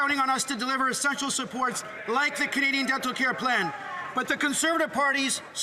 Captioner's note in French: voix de l'interprète